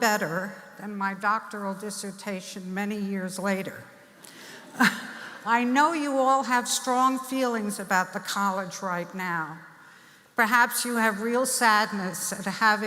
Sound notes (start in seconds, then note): 5.5 laughing